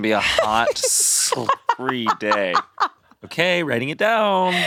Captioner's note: laughs